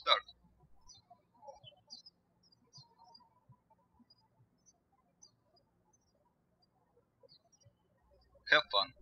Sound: birds chirping

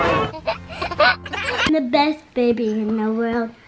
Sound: baby giggles

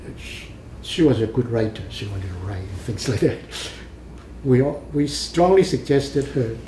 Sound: laughs

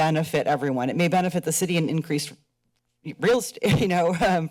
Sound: chuckles

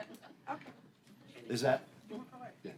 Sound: laughter

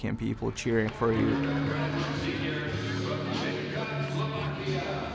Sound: crowd chatter

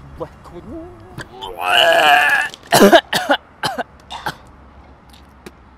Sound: vomits

